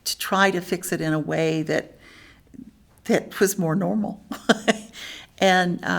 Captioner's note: laughs